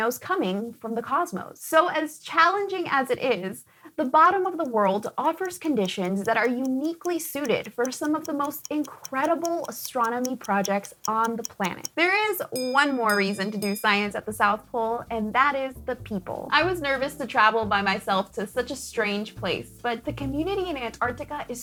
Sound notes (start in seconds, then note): 11.8 timer